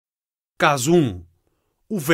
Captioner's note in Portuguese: Voz masculina